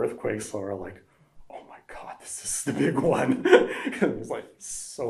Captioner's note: laughs